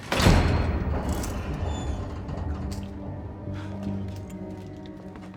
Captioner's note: door clanks and squeaks